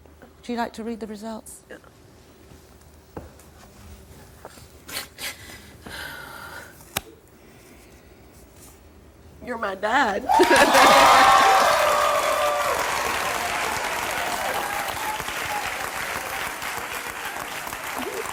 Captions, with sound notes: Would you like to read the results? - Yeah. You're my dad. (audience cheering)